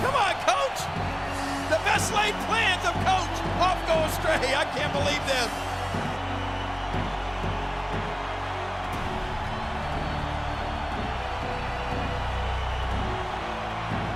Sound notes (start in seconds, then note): 0.0 audience cheers; 1.5 audience cheers; 6.1 audience cheers; 6.1 upbeat music